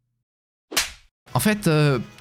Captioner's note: slapping sound